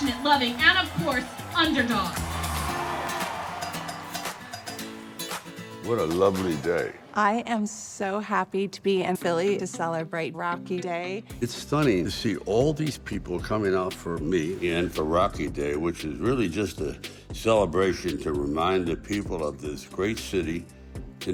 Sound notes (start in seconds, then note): 2.4 cheering